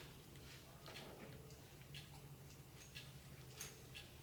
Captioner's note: clock in background